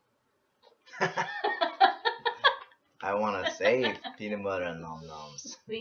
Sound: laugh

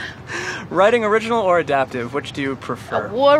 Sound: chuckling

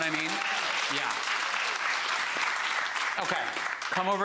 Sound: audience applauds

